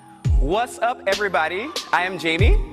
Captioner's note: recorded audio